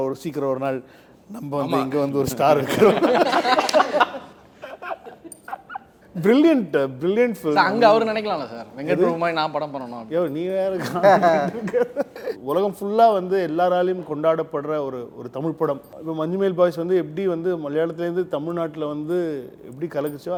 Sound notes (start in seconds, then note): 2.7 everyone Laughs